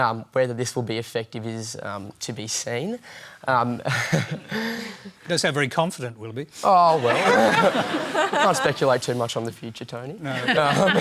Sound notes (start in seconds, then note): 3.8 chuckles; 7.0 laughter